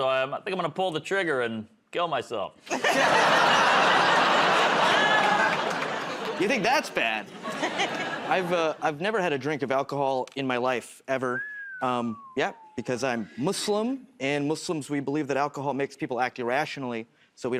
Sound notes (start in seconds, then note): 2.6 laughter; 11.2 whistles